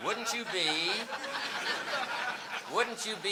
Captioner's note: audience laughing